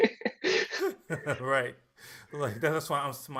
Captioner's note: laughing; laughs